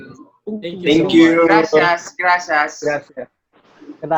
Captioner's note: in Spanish